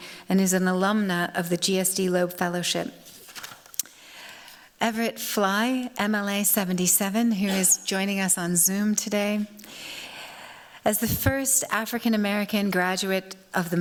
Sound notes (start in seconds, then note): none